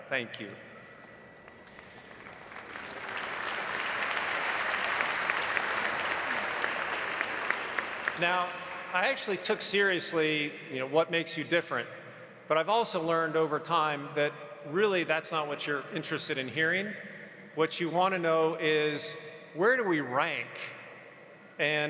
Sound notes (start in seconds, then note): 1.2 audience applauding